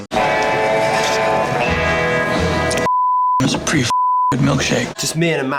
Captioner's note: slurps